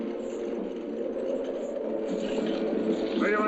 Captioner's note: soft dramatic music; chains rattling